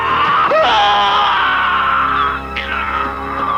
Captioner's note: screaming